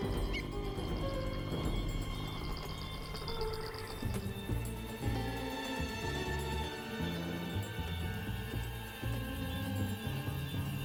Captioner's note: squawking